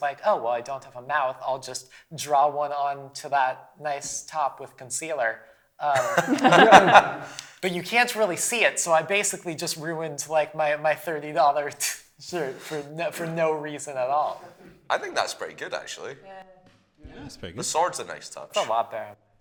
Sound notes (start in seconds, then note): 5.9 laughter